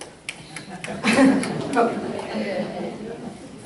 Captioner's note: audience applause and laughter